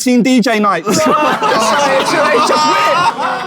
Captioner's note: people in room laughing